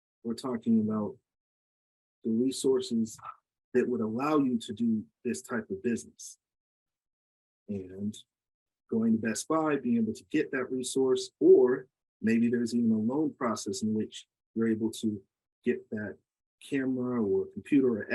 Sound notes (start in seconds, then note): none